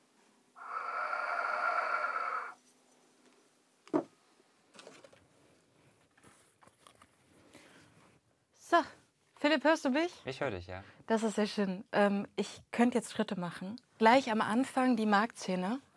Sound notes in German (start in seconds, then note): 0.8 Hauchender Klang